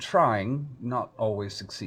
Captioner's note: none